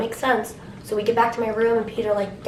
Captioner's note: none